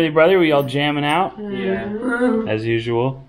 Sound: grunts

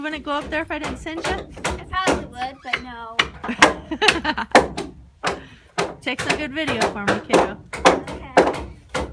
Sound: both laughing

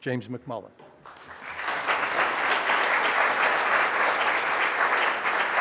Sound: audience applauding

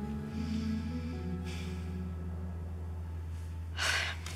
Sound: breathes deeply; sighs

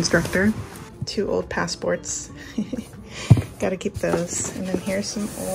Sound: laughs

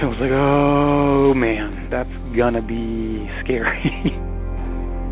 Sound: laughing

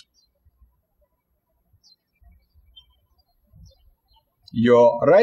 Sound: birds chirping

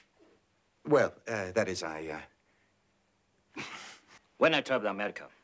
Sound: sighs

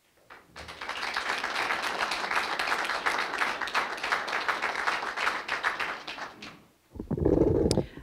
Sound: applause

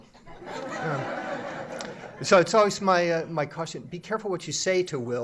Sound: laughter

